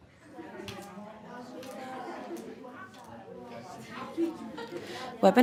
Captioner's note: sound up of general chatter